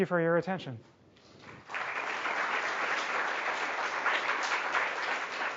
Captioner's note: audience applauding